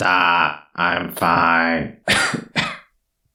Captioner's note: coughing